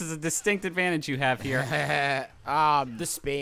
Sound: fake laughs

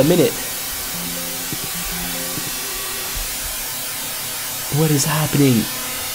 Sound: computer chiming

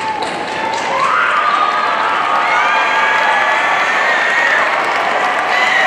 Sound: audience cheering and applauding

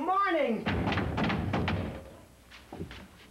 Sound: knock on door

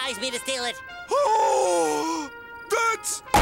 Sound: gasping

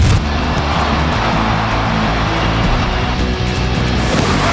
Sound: cheering

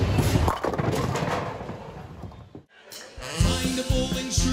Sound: pins clattering

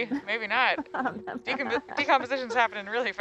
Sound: laughing

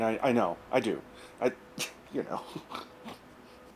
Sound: chuckles

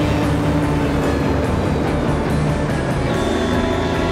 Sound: engine roaring

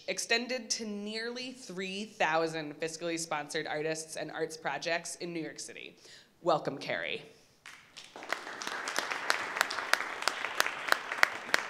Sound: applause

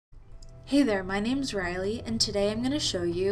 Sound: voiceover

